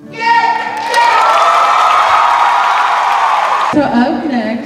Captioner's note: cheers and applause